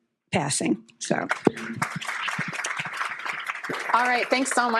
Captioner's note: applause